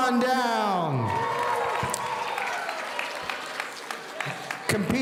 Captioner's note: audience applauding